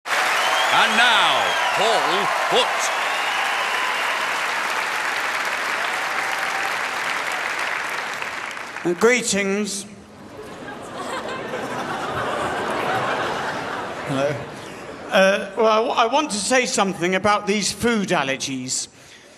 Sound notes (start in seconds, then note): 3.6 crowd cheers; 10.2 crowd laughs